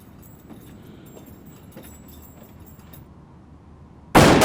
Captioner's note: gunshots